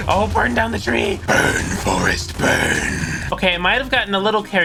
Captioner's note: deep demonic voice